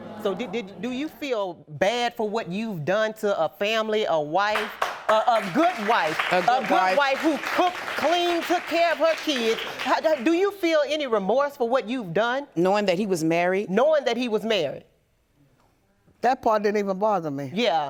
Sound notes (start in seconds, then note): 4.5 audience applauding